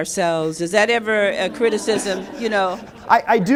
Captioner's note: laughter